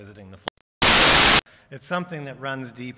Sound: static

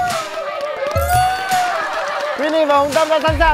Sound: cheering

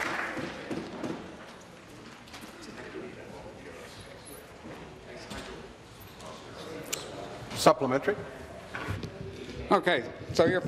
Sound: applause

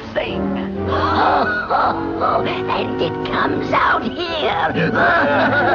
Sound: laughs

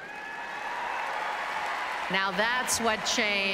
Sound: applauses and cheers

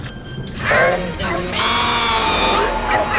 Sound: distorted voice; evil laughter, wind howling

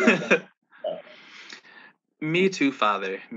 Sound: laughs

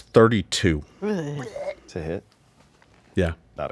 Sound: player moans

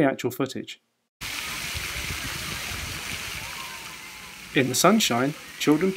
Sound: sounds of water and children playing

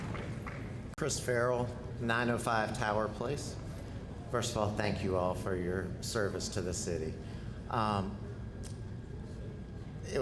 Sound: applause

